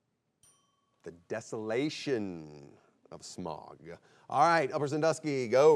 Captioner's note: bell chimes